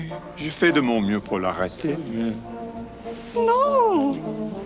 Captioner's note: John speaks French